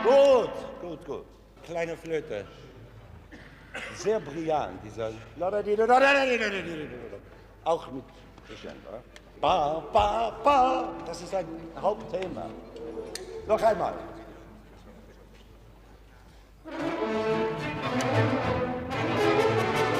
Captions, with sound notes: Good, good, good! (speaking foreign language) (orchestra playing)